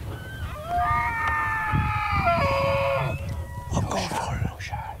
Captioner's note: elk bugling